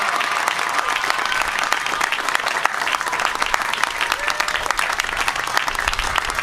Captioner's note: applause